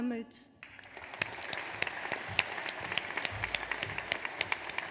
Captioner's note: audience applauds